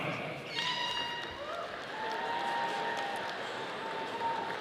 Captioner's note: audience applauding